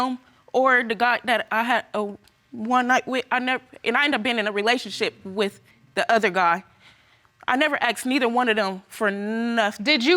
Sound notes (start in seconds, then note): none